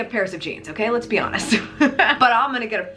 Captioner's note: chuckles